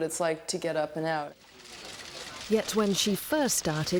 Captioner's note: camera shutters clicking